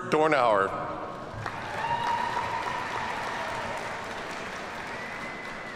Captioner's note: audience cheers and applauds